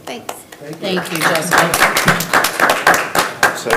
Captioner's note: group clapping